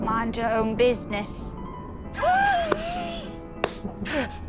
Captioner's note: laughs